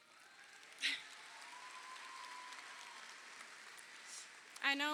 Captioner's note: crowd cheering